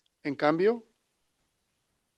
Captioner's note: non-english speech